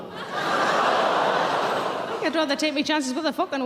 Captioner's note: audience gasp